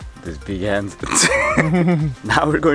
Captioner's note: laughs